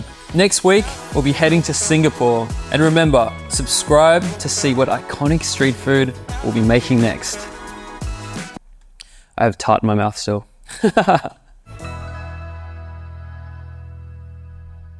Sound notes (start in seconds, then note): 10.7 laughs; 11.7 upbeat music